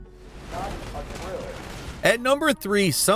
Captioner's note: loud gun shooting